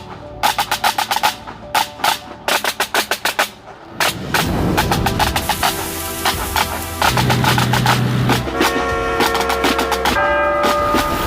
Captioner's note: horn honking